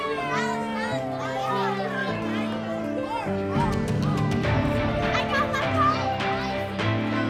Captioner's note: children playing